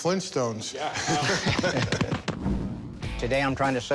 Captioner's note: all laughing